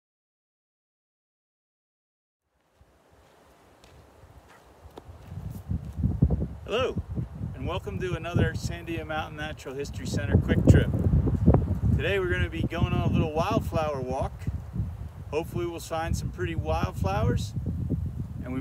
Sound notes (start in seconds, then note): 2.5 gravel crunching underfoot